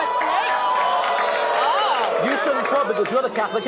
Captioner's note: audience exclaims